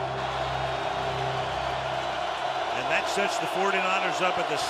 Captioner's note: cheering